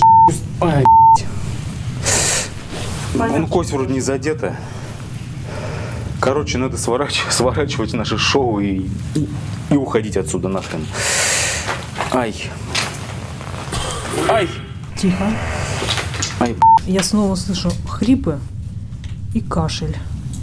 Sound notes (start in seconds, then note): 13.7 coughing sound